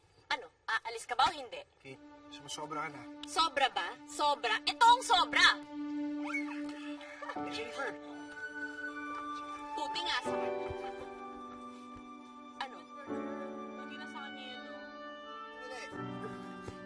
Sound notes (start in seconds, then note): 6.2 squeals; 6.2 girls laughing